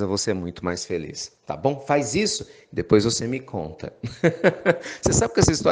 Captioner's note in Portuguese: Risos